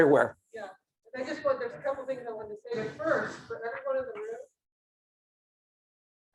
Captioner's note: speaking faintly